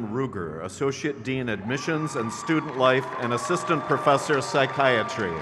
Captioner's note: crowd cheers